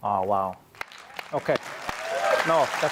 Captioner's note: applause